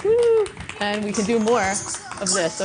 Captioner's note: applause